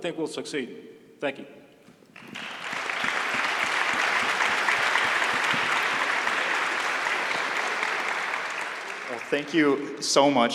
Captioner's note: applause